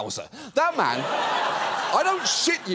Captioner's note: audience laughs